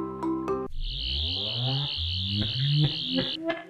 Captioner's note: lullaby Music; sonic screwdriver sound